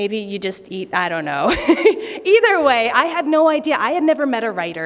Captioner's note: laughter